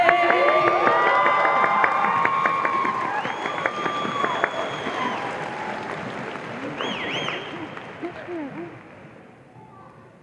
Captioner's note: audience applause and cheers